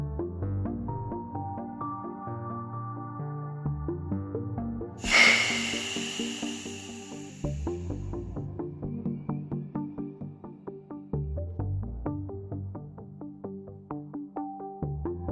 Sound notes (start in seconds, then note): 5.0 hiss